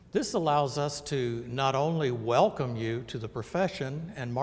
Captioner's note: none